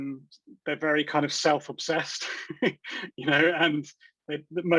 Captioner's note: chuckles